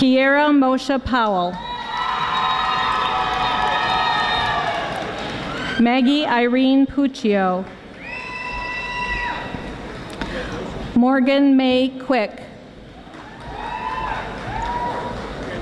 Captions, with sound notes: Kiara Mosha Powell (audience applauding) Maggie Irene Pucchio (audience screaming) Morgan Mei Quick